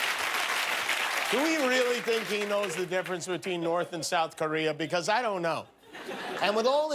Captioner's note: cheers and applause; laughter